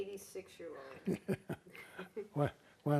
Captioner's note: laughing